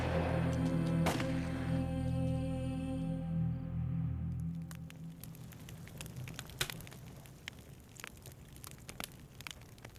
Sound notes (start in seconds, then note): 4.2 flames crackling